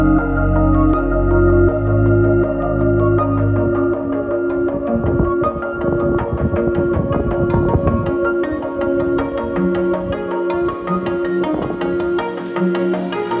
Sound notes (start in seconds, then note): 6.1 upbeat music; 6.1 wind whistling